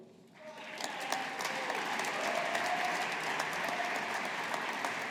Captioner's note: audience applauding